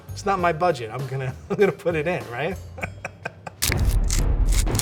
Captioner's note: laughing; dramatic music